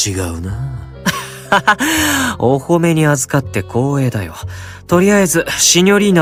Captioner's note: chuckles